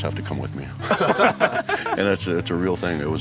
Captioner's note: laughs